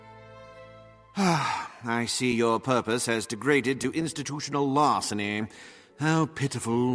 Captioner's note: sigh